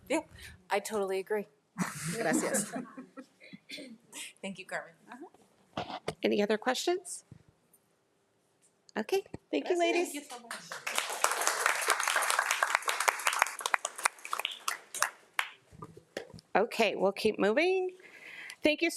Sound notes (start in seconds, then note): 1.8 attendees laugh; 10.4 audience applauds